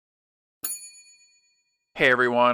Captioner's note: bell rings